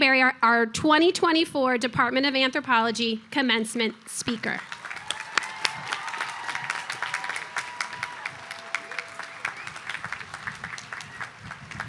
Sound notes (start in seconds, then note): 4.4 audience applauding